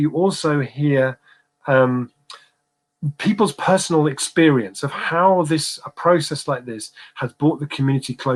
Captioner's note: erm